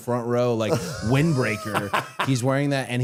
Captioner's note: Matt laughing